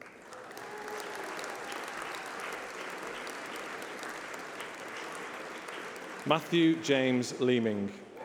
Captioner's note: applause